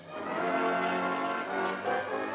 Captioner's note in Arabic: إغلاق الباب